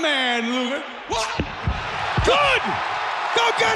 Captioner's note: body thudding